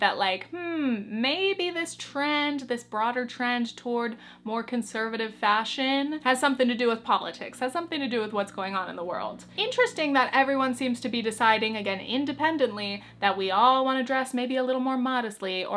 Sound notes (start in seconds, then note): none